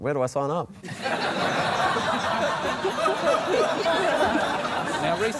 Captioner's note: laughter